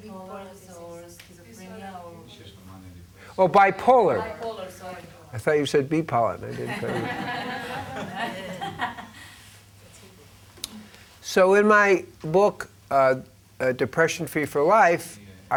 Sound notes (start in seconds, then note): 6.5 audience laughs